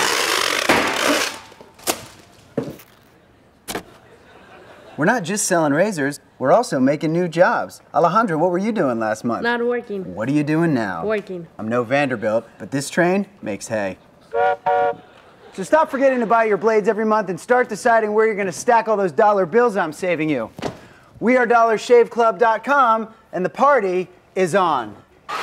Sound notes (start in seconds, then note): 0.1 laugh; 14.9 laugh